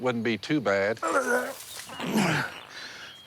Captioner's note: throws up